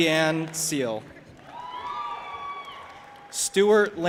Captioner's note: audience applauding and cheering